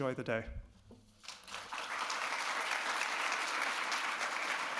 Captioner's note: audience claps